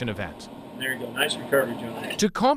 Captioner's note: flight simulation audio